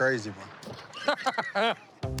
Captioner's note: laughs